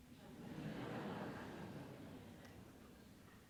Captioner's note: laughing